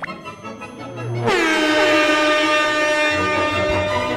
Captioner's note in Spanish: suena la bocina de aire